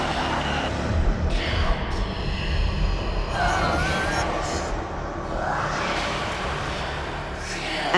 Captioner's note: whispers of kill kill kill